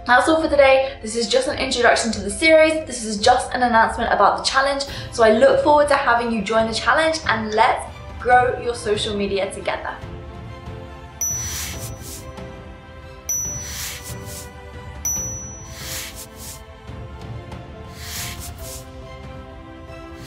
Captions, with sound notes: That's all for the day. This is just an introduction to the series. This is just an announcement about the challenge, so I look forward to having you join the challenge, and let's grow your social media together, (light music) (bells tinkling)